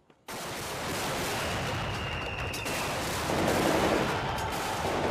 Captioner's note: gunshots and soldiers yelling